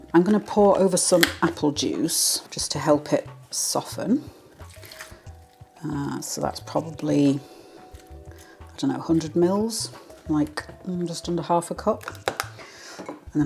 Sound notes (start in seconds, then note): none